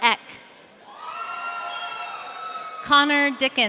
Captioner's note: audience cheering